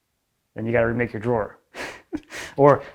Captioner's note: laughs